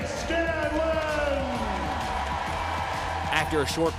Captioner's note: cheering